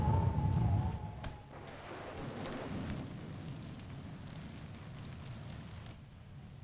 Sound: thunder rumbling; rain pattering

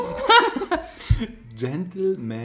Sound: laughs

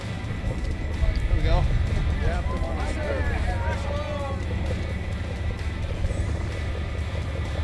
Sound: chuckles

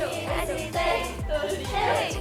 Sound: hehe, laughing

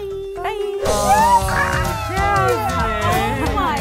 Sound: excited screaming

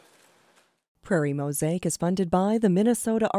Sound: voiceover

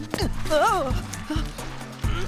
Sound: grunts

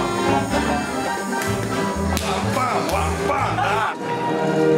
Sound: claps

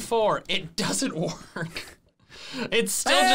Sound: laughs

